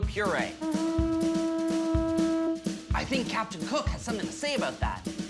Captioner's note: ship horn